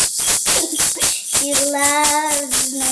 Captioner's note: shaker rattling; laughing